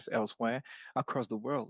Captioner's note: speaking French